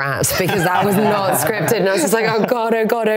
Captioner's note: laughing